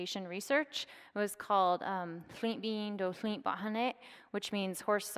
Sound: speaking foreign language

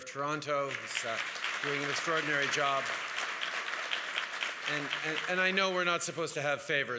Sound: applause

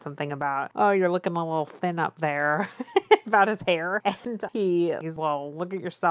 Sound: laughs

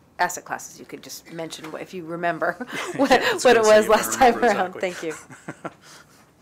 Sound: chuckle

